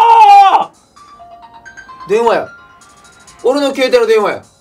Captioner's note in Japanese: スマホの着信音